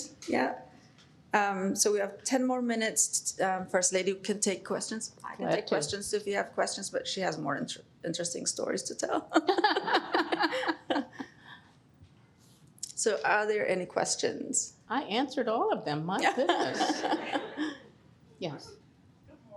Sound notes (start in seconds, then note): 9.3 laughter